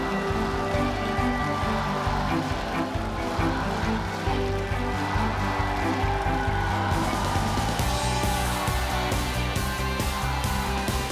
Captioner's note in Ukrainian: оплески